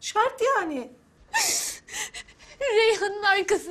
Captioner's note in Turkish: Ağlama sesi